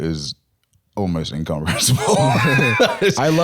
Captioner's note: laughs